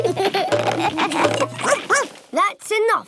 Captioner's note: all laugh; barks